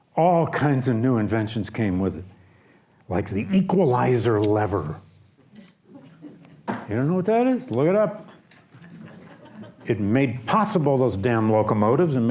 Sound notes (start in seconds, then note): 8.8 audience laughs